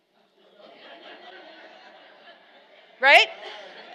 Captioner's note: laughing